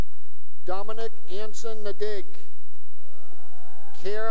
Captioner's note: cheering